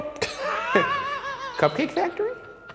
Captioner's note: laughs